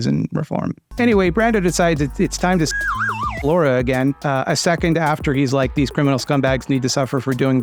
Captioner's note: slide whistle noise